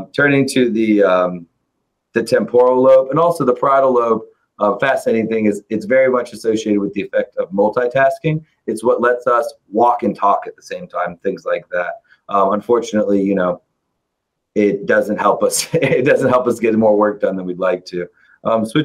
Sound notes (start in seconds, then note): 15.4 chuckles